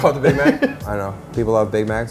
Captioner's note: laughing